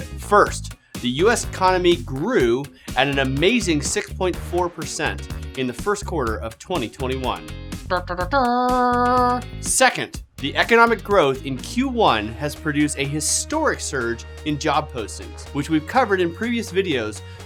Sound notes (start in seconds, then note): 7.9 mimics trumpet